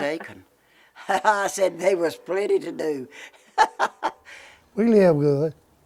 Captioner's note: laughter